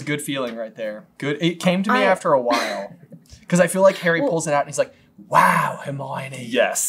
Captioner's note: accented